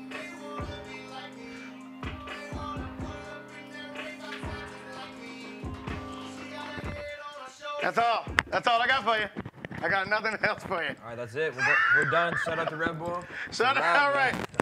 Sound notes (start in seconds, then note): 11.5 laughs